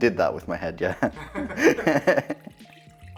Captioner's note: laughs